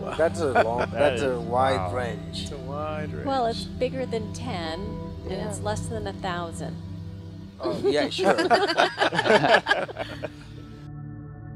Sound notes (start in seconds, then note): 0.0 laughter; 7.6 laughter; 10.0 ambient music